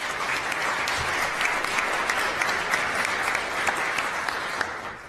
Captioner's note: applause